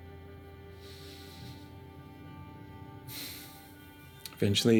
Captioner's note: breathes deeply